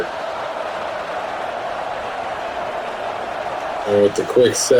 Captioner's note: crowd Noises